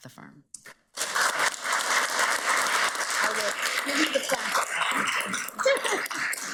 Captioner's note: audience applauds